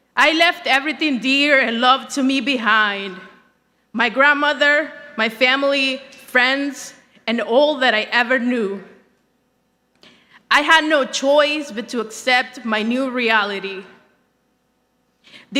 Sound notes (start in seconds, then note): none